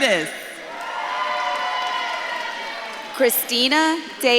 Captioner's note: audience claps and cheers